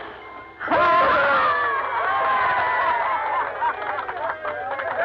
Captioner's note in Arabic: الجميع يهتفون ويصفقون